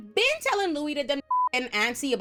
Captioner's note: beep